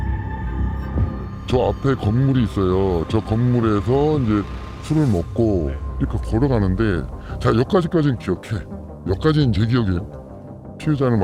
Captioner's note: voiceover